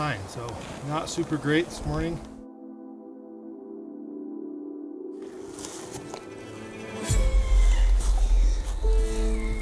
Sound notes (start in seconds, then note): 7.0 cow calling